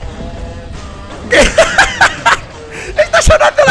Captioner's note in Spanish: Ríe frenéticamente